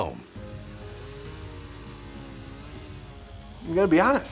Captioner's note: chainsaw revving